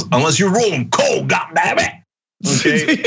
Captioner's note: laugh